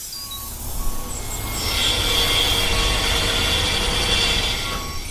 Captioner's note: spray paint hissing; construction vehicle beeping; jackhammering